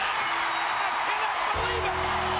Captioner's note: crowd cheers; bell rings